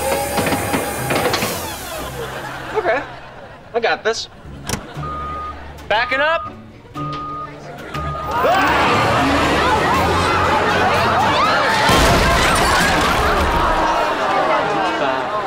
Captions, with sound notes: Okay. I got this. [beeping] Backing up! [beeping] [chattering, screaming]